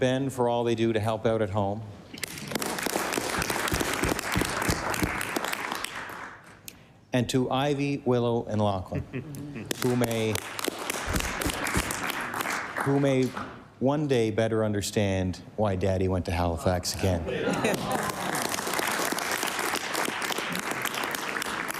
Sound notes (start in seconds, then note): 0.0 applause; 6.0 applause